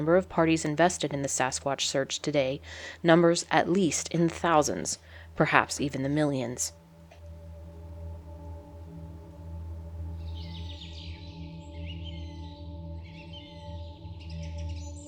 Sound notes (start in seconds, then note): 7.9 mysterious music; 10.0 birds singing